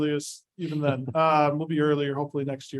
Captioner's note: chuckles